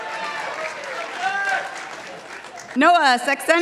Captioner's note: participants applauding